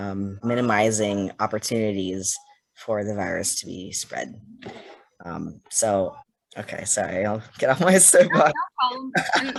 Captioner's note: laughs